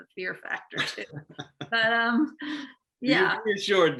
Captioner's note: laughing